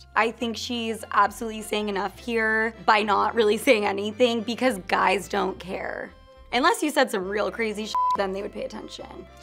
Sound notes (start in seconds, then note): 7.9 beeps